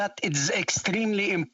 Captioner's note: speaking French